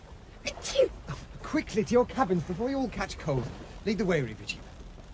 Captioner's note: sneezes